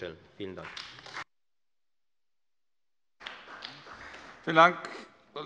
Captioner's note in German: Beifall bei Abgeordneten der FDP und der CDU